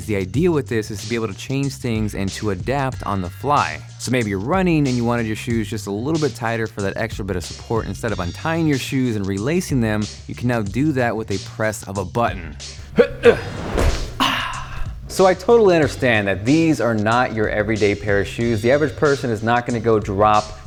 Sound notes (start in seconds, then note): 12.8 grunts